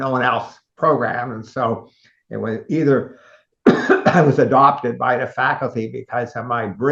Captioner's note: cough